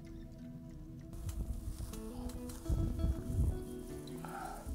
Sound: heavy breathing

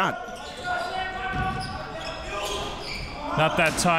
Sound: crowd cheering

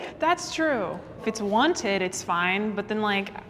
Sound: none

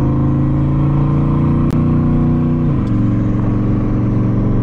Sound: engine revving

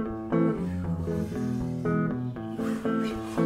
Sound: whooshing

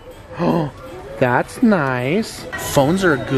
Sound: gasps

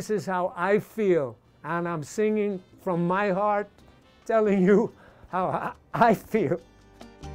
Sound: chokes up

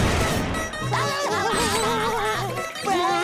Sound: laughing

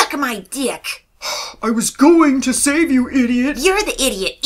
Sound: sigh

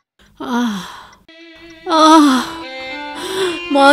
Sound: groaning

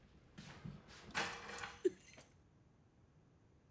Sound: key jingling; sobbing

